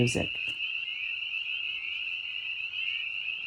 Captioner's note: frogs croaking